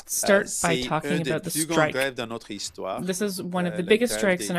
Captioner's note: speaking in French